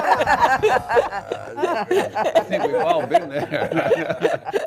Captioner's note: all laughing